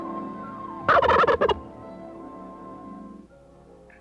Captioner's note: gobbling